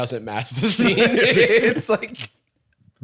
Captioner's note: laughing